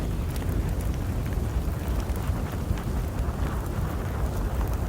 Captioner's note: fire crackling